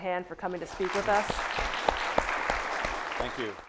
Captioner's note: audience clapping; clapping